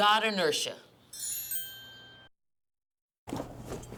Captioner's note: dings